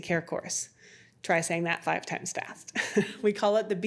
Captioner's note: laughs